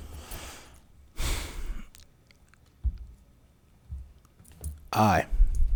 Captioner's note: sighs